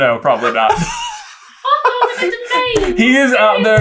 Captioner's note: team laughter